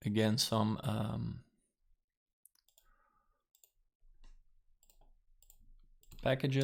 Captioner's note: strange moment of silence